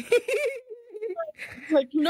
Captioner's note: laughing